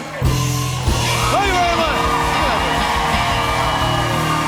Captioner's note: cheers and applause